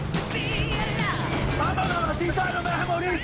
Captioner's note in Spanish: Disparos